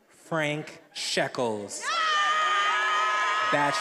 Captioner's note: attendees applauding and cheering